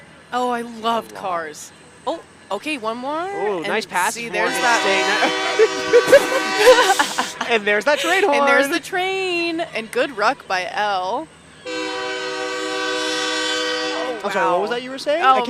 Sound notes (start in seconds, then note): 4.1 horn blows; 6.4 laughter; 11.6 horn blows